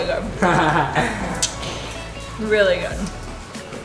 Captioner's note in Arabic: يضحك